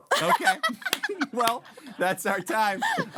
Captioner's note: laughing